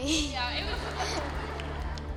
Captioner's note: laughter